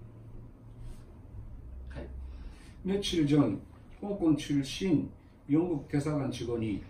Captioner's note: Korean